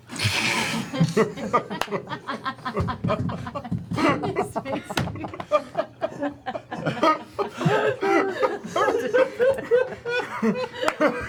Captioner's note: laughter